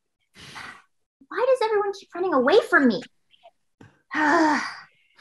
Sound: sighs

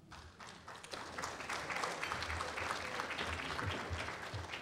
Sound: applause

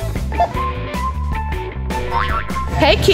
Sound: machine beeps

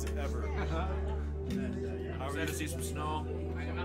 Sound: chuckling

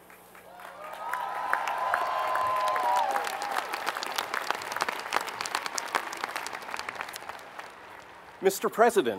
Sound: applause

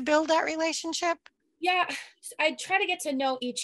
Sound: sighs

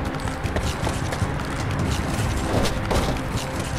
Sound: fast running

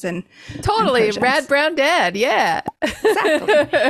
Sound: laughs

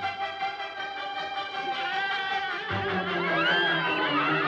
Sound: cawing; laughing

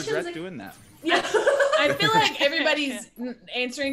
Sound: laugh

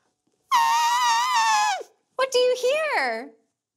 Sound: trumpeting

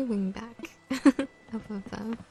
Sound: laugh

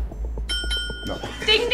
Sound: dinging

